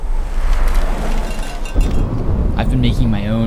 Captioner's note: traffic whoosing; cow bell clanging; thunderstorm